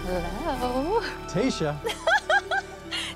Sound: laughs

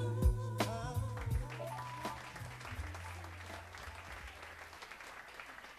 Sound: audience clapping

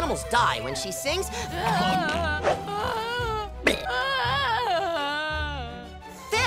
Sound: crying

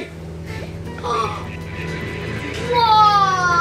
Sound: gasps

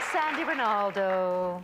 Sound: applause

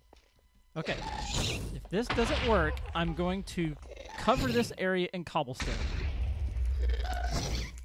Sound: shrieking and explosions continue

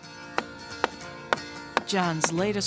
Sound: hammering wood

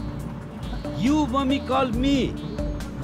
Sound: speaking broken English

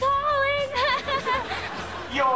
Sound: laughing

